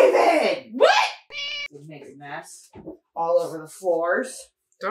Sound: meow

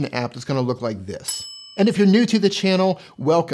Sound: bell ring

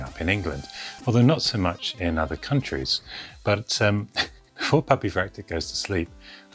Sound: laughs

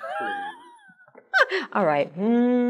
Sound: chuckle

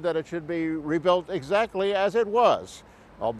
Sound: none

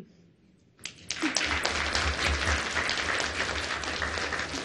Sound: audience applause

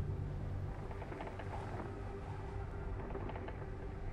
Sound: creaking

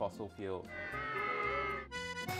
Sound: audience booing; upbeat music

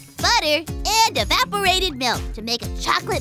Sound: none

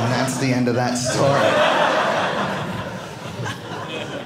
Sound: audience laughing

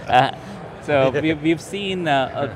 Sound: laughing

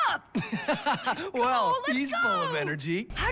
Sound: laughing

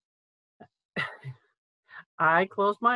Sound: chuckles

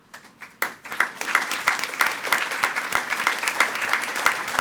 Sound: attendees clapping

